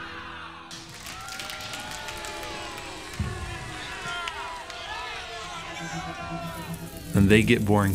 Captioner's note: imaginary crowd applauding and cheering